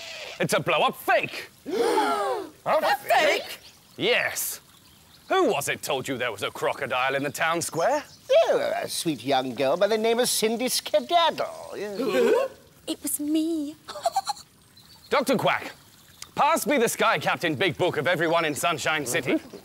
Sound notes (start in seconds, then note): 1.6 gasp!